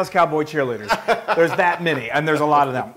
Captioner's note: laugh